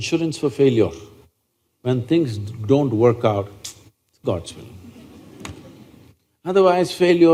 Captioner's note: few Laugh